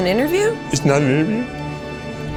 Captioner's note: in puppet voice